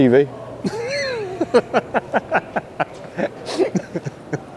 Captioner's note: laughs